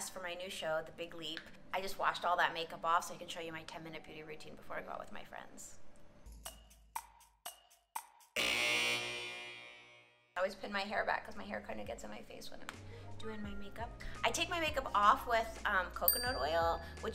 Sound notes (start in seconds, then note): 8.4 buzzer rings